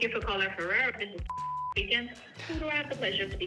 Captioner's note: beep